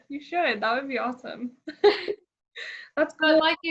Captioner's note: laughs